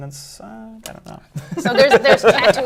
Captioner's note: laughter